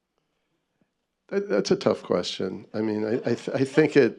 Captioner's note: laughter